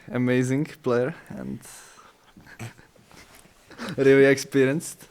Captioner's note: laughs